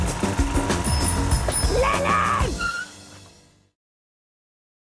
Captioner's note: yells; brakes Squeak